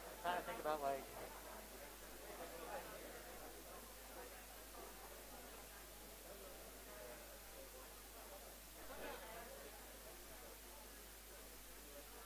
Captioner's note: background chatter